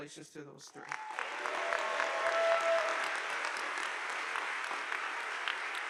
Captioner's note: audience applauding